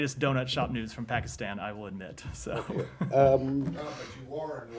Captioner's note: laughter